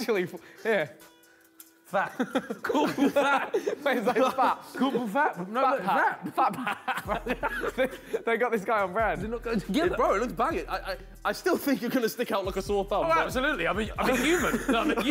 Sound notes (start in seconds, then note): 6.9 men laugh